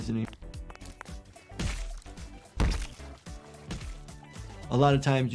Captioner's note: water squelches